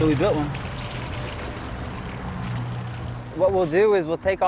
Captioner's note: water splashing